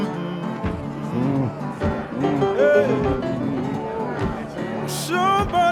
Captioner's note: pianist humming; bluesy piano music